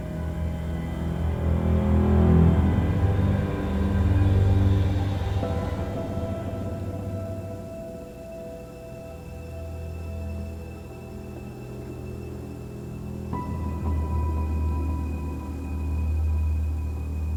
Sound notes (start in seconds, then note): none